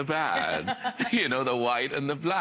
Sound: laughter

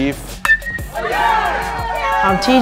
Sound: crowd cheering

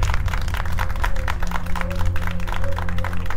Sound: applause

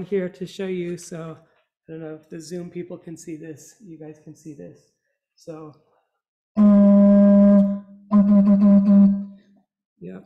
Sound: toooooooooooot

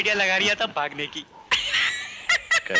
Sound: laughs

